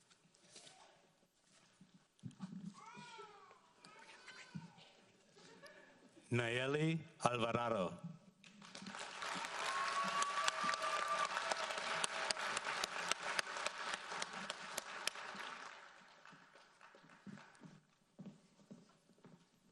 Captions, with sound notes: - Nayeli Alvarado. (audience applauds)